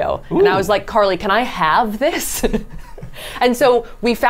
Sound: laughs

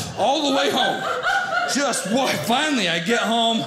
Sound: audience laughing

